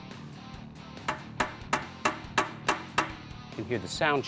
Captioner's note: tapping